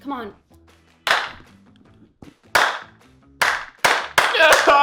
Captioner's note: slow clapping